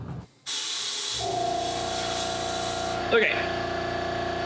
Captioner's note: machine buzzing